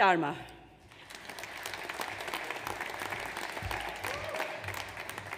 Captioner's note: audience applauds